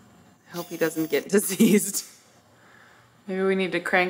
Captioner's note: laughs